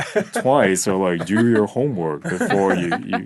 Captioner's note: laughing